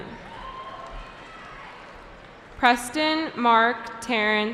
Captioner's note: cheering